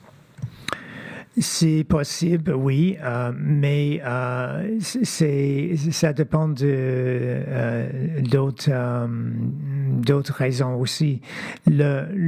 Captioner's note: speaking French